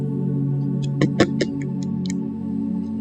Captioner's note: indecisive sounds